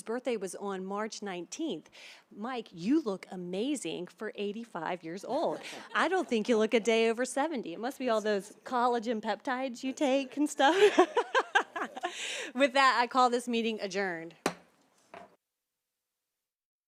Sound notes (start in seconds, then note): 10.0 laughter; 14.4 gavel hitting dais